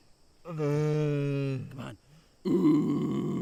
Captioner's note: Keith groaning